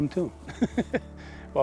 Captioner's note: laughs